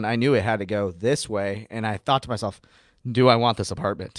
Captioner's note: none